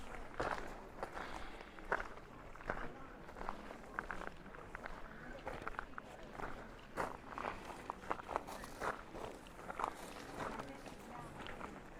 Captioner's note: background chatter